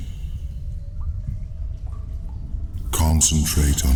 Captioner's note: cave noises